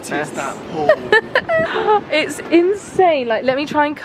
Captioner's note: giggling